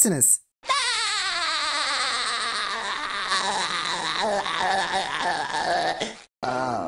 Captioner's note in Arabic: هههههههههههه!